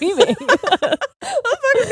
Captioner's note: both laughing